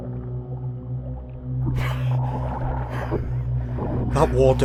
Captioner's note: underwater sounds with gasps and struggles for breath